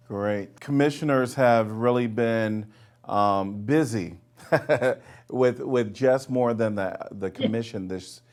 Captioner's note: laughing